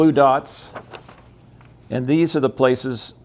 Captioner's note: paper flapping